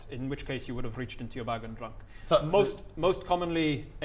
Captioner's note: none